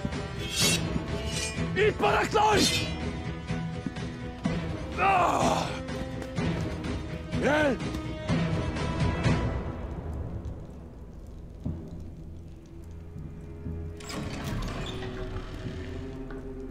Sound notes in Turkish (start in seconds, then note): 0.3 Kılıç sesleri; 3.1 Bağırma sesleri; 10.0 Ateş çıtırtıları sesleri; 13.9 Kapı açılma sesi